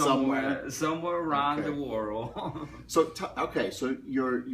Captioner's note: laughs